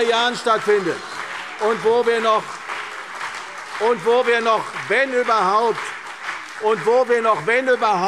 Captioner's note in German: Beifall CDU und BÜNDNIS 90/DIE GRÜNEN – Zurufe SPD und Freie Demokraten